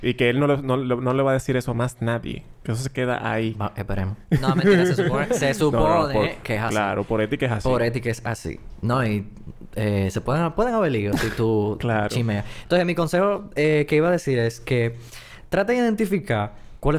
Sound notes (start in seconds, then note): 4.4 laughs